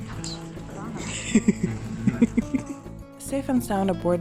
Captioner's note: laughter